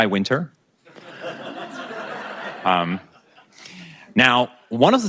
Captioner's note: audience laughing